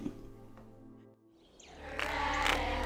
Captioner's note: Dave chuckles; birds chirping